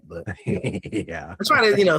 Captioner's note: laughing